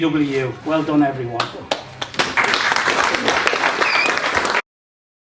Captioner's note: applause